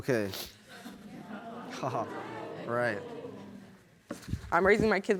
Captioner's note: audience snickering